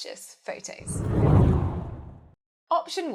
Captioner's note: hard whooshing